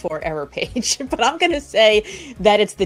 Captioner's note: laughs